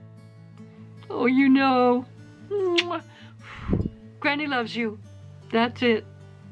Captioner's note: blows kiss